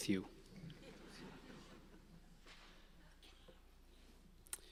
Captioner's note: audience laughing